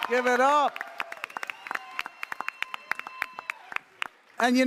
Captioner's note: audience cheering